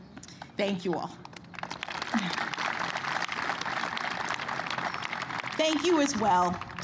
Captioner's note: applause